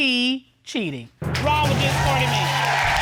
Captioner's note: audience cheering